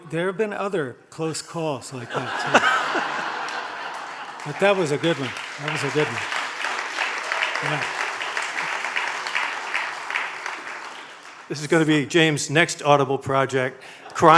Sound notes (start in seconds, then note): 2.5 audience laughing; 7.1 audience clapping